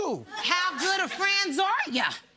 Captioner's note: laughter